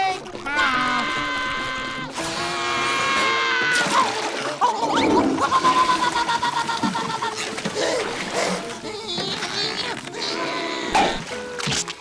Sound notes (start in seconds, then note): 0.1 screaming; 4.2 flushing, screaming; 8.3 grunting